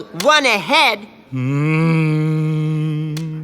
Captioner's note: humming